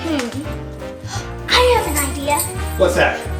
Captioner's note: gasp